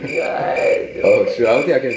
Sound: cricket chirping

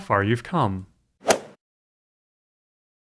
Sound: swoosh

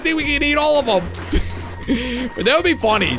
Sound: chuckles

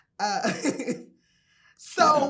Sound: laughing

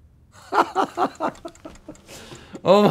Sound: laughing

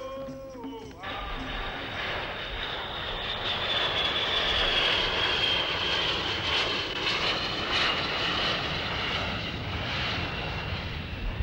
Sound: sound of jet landing

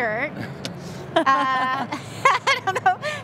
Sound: laughing

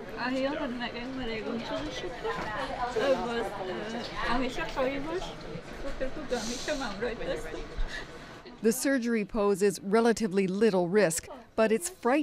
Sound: speaking foreign language

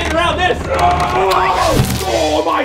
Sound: grunting

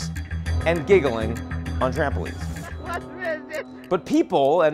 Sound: man laughs

